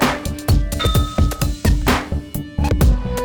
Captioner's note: ding